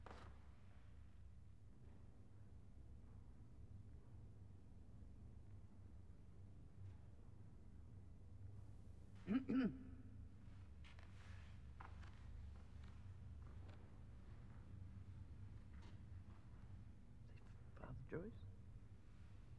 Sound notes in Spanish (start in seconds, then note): 9.2 mujer carraspeando